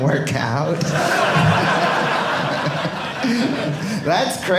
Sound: audience laughing

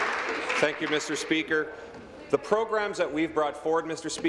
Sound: applause

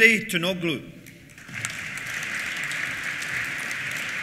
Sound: applause

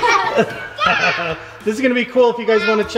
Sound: giggling

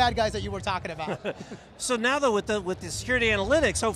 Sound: chuckles

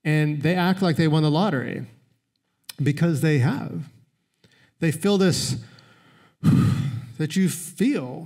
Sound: exhales

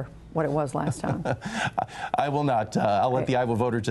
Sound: laughter

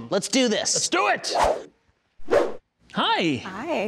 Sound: swooshing

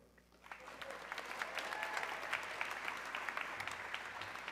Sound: audience cheering

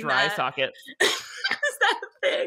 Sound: laughing

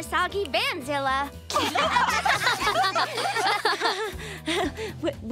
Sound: laughing

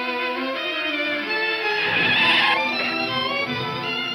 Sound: tires squealing

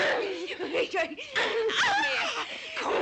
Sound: women groaning

